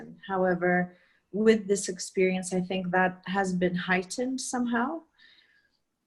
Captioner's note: none